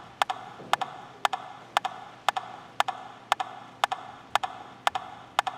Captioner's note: rhythmic tapping